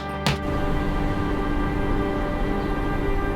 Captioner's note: suitcase thuds; car engine hums